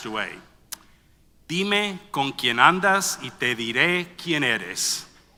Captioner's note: foreign language